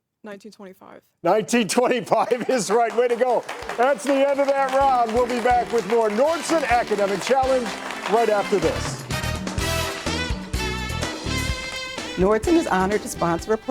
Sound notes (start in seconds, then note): 2.9 audience cheers; 9.1 upbeat music